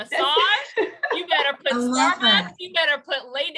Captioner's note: laughter